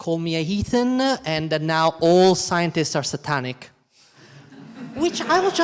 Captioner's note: all laughing